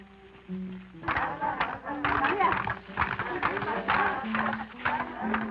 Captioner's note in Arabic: النساء يصفقن ويهتفن